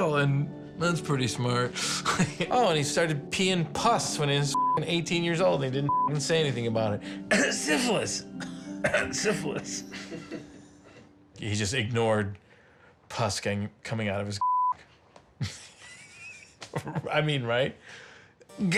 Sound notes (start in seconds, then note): 1.8 laughs; 8.4 cough; 9.8 both laughing; 15.4 laughs